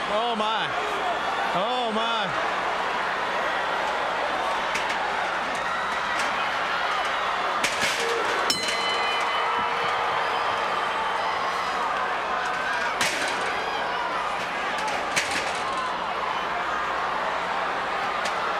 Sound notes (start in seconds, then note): 8.4 bell dings